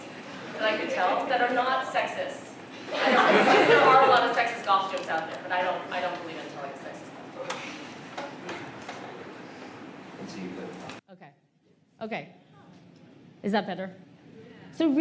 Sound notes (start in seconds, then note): 2.8 laughter